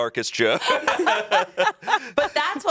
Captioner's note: everyone laughs